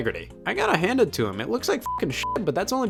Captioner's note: beep